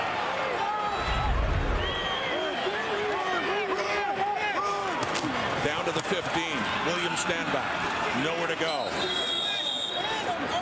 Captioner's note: crowd Noise